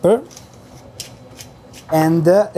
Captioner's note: grinder crunching